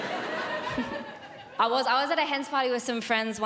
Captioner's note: giggles